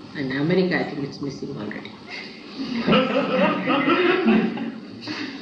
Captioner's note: laughter